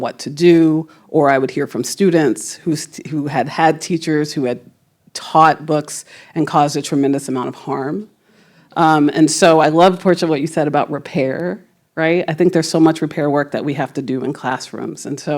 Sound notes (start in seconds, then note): none